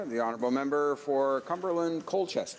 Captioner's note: applause